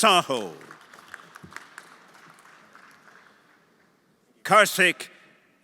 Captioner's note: everyone applauding